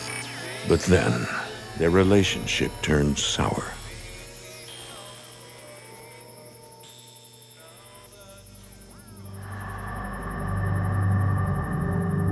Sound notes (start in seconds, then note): 0.0 static crackles; 3.4 radio squealing; 9.1 somber music